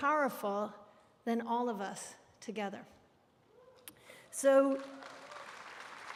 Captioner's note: applause